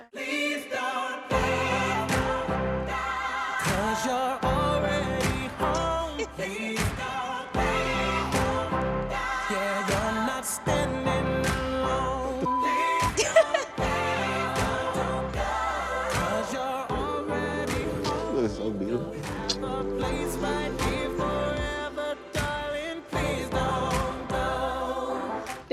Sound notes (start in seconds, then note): 12.4 beep; 12.9 laughs